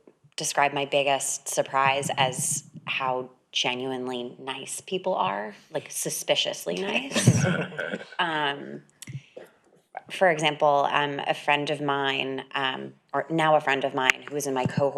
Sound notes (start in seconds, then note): 9.0 people laughing